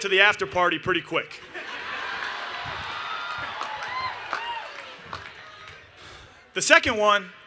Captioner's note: laughter